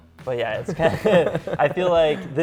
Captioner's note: laugh